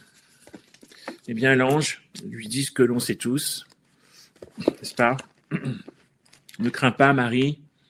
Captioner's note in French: raclement de gorge